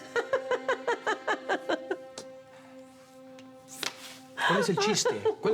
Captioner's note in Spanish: Ella ríe